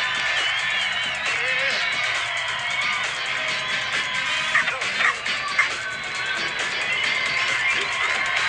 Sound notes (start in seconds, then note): 4.2 cuddles and zippy bark